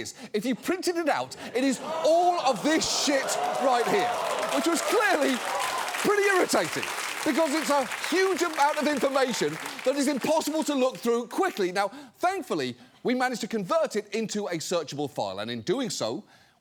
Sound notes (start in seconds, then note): 4.1 studio audience cheers, claps